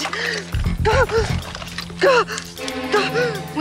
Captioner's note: gasping